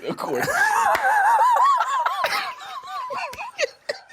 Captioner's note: both laughing